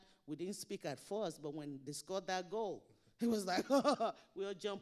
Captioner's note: imitates laughing